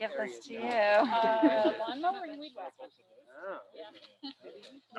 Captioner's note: crowd chattering